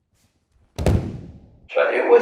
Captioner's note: breakfalling Sound from Ukemi